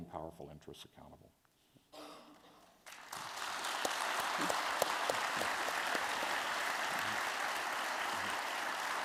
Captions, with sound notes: powerful interests accountable. [APPLAUSE]